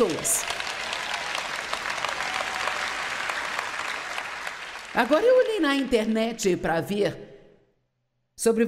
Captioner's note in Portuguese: audiência aplaude